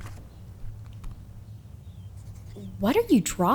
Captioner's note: sounds of scribbling